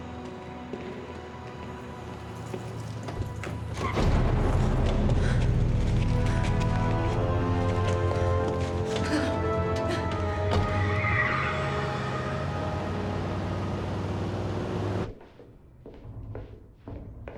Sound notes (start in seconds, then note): 2.6 car door opens; 8.9 Ellie grunts; 10.4 tires squeal